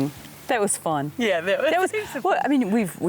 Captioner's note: laughing